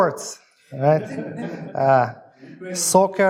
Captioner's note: audience laughs